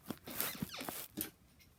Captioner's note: bed squeaks